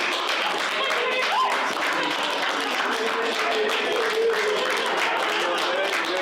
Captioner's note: group applauding; group cheering